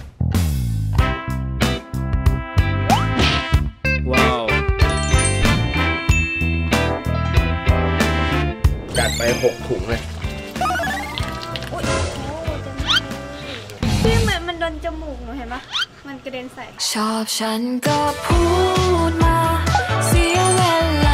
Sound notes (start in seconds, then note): 0.2 chill music playing; 8.9 liquid pouring; 17.8 romantic music playing